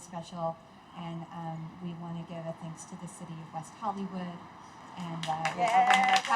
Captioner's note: cheers